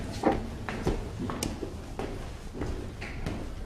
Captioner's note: footsteps